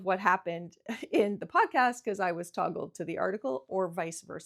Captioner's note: laughing